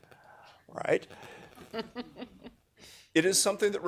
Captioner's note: laugh